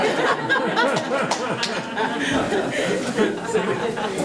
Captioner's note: attendees laughing